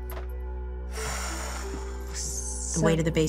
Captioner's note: sharp exhale